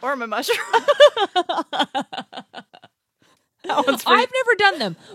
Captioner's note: laughs